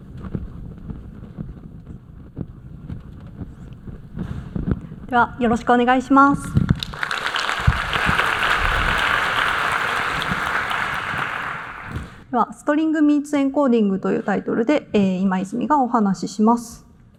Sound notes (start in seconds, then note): 6.7 applause